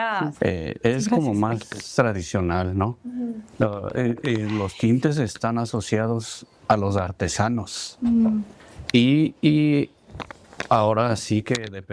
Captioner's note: speaking spanish